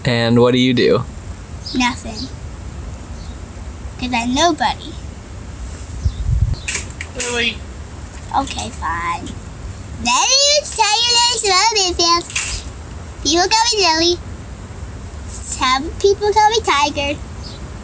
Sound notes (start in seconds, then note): 10.5 in a silly voice